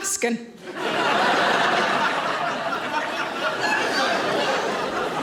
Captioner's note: audience laughing